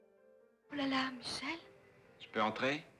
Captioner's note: speaking in French